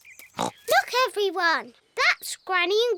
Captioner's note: oinks